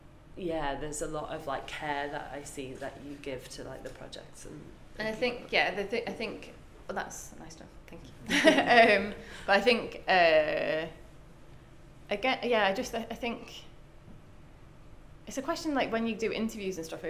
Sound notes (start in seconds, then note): 8.2 both laugh